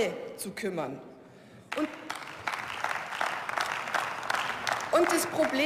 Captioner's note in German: Beifall